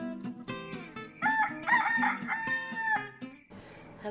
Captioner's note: rooster crows, crickets chirping